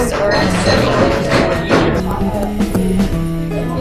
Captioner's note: hammering; piano music